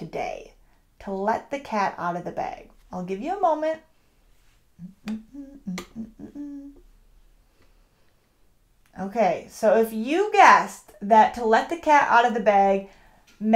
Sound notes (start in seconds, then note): 4.8 humming